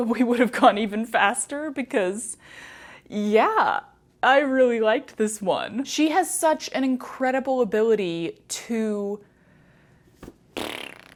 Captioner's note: mouth fart